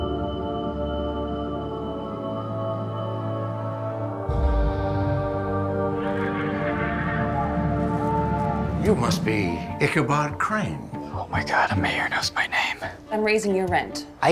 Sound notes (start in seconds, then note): 7.4 spooky night noises